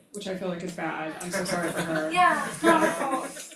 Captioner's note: crowd members laughing